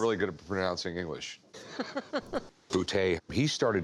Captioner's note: chuckling